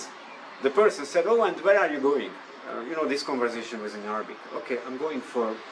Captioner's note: this conversation was in arabic language